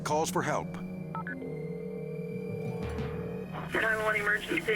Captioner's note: phone ringing